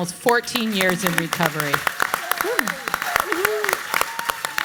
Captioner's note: audience claps